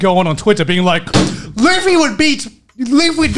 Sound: table thumps

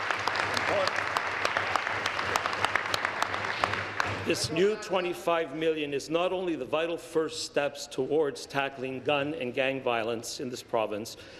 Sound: applause

